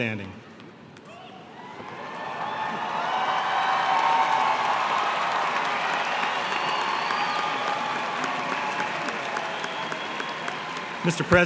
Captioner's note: applause